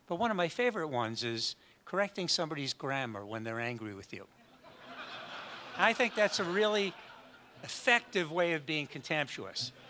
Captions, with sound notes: but one of my favorite ones is correcting someone's grammar when they're angry with you. [audience laughs] I think that's a really effective way of being contemptuous.